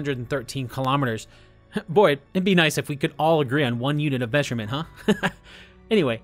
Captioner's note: laugh